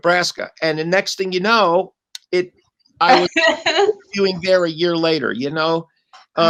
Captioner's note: laughter